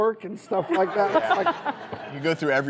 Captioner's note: laughs